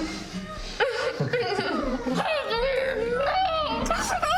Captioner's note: victims groaning